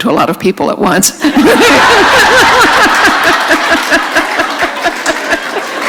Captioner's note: laughter